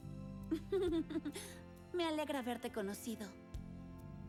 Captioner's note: giggles